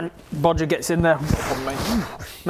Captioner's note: whoo whoof